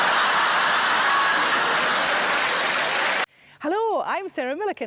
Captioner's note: audience laughing; audience applauding